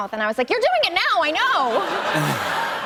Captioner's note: laughter